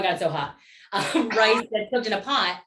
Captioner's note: laughter